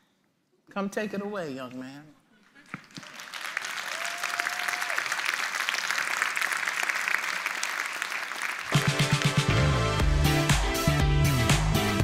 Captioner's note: applause